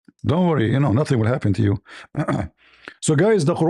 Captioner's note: clears throat